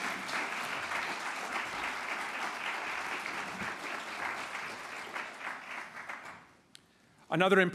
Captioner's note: applause